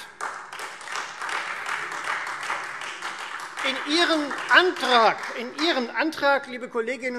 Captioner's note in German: Beifall